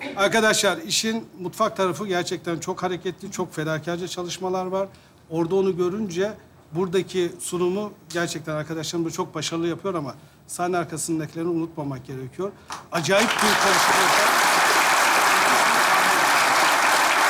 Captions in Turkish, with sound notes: ...arkadaşlar işin mutfak tarafı gerçekten çok hareketli. Çok fedakarca çalışmalar var. Orada onu görünce burdaki sunumu... ...gerçekten arkadaşlarım da çok başarılı yapıyor ama... ...sahne arkasındakilerini unutmamak gerekiyor. Acayip bir konstrasyon. (Alkış sesleri)